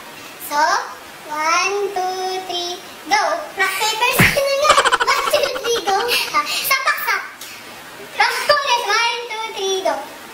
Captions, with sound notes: So 1, 2, 3, GO! I thought it's rock, paper, scissors. 1, 2, 3, GO. (Laughs) Let's do it again. 1, 2, 3, GO!